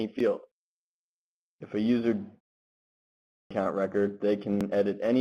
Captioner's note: audio interrupts